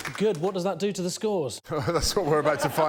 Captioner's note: laughter